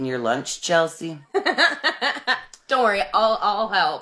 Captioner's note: laughing